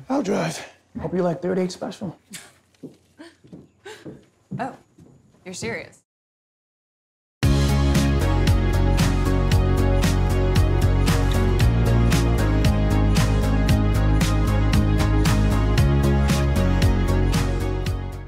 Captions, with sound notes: - I'll drive. Hope you like 38 Special. (Roscoe chuckles) - Oh, you're serious. (upbeat music)